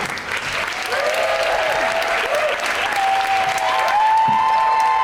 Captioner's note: crowd cheering